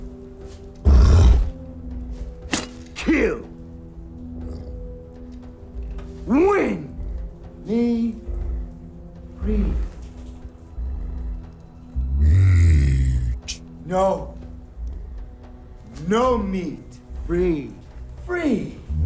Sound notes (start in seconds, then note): 0.8 growls